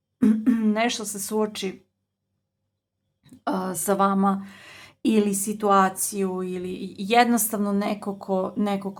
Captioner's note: coughs